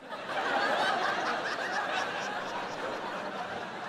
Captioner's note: audience laughing